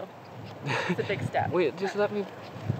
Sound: chuckling

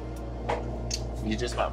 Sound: lips smack

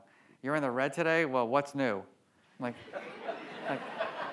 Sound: audience laughs

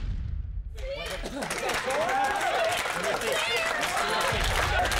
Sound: cheering

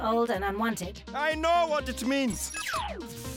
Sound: whirring; buzzing

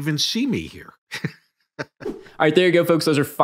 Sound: chuckling

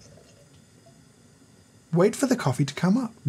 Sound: pot rumbling softly

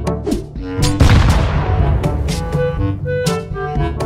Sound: explosion again

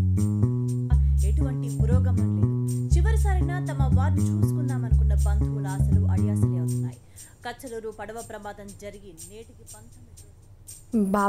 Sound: TV sound

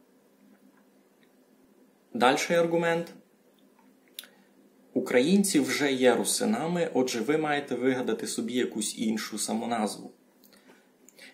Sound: speaks Ukrainian

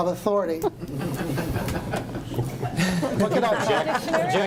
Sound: group laughs

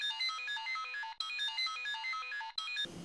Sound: cellphone rings

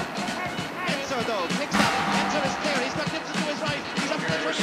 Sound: mixed voices; drum beats louder

